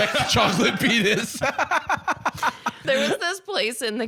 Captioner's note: laughing